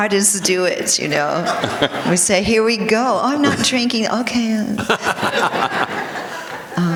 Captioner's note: laughter